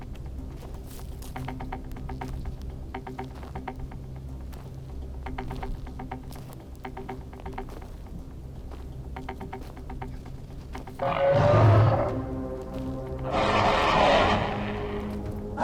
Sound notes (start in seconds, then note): 11.4 shark roaring